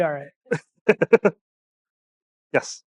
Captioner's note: laughing